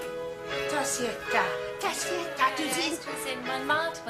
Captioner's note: instrumental music playing; both speak latvian